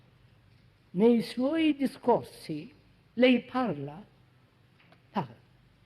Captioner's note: En italiano